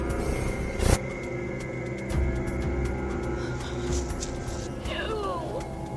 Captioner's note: gasp